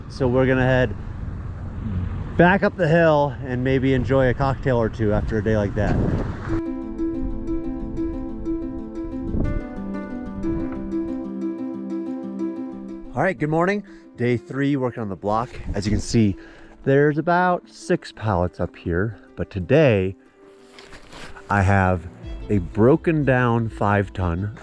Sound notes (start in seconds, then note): 5.8 wind blowing; 6.3 upbeat music